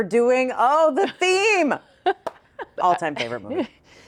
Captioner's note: chuckles